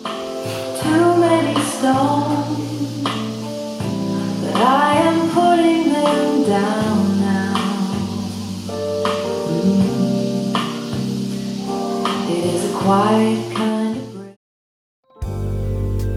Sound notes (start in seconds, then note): 5.1 mmm